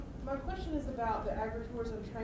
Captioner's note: voiceover